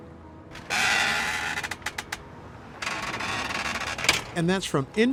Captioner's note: metal screeching